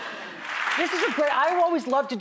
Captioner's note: audience applause